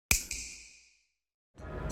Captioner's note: snap